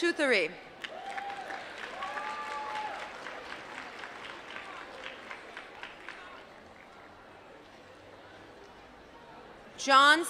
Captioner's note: applause